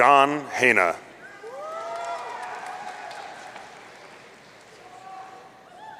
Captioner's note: audience cheering